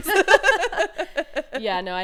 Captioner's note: both laughing